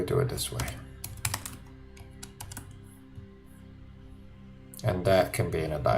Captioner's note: keyboard typing